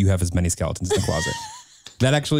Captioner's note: chuckles